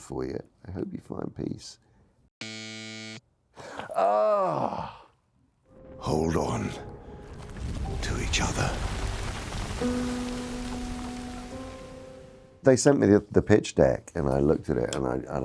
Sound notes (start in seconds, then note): 2.4 buzzer rattles; 9.2 somber music